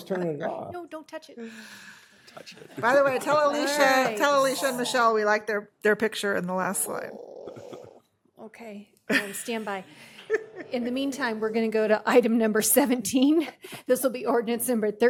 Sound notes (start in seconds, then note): 2.4 laughter